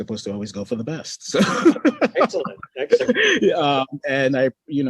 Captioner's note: laughs